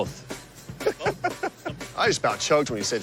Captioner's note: laughs